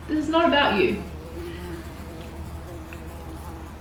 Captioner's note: buzzing